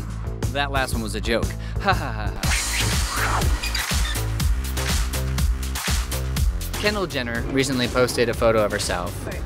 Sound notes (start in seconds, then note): 1.8 fake laughter; 2.3 techno music